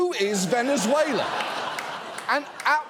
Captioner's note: audience laughs